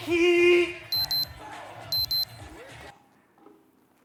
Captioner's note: beeping